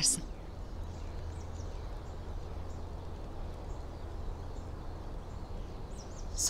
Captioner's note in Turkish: Kuş cıvıltıları